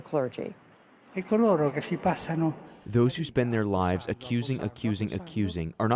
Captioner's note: through translator